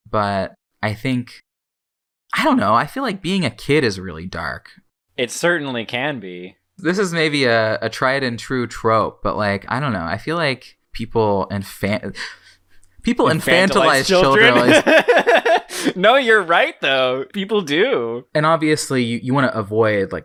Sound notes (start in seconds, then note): 12.2 sharp inhale; 13.5 laughs